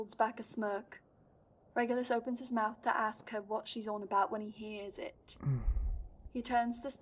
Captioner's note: a stifled moan